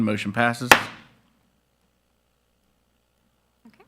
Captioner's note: gavel pounds